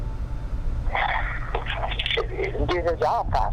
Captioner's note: sighs